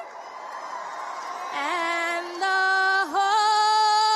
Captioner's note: cheers and applause